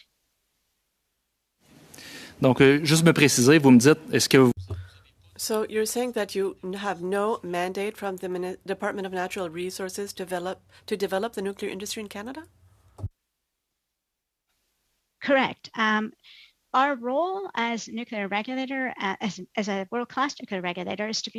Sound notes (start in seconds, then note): 6.0 speaking French